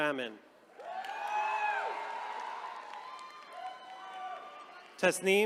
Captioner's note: attendees cheering